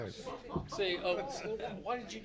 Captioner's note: audience laughs